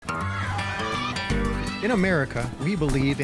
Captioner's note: children cheering